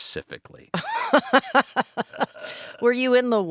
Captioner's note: laughing